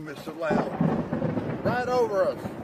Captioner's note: thunder rumbling